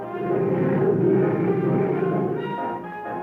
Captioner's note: cheetah roaring